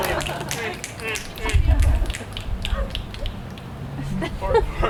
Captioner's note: actors clapping; fingers snapping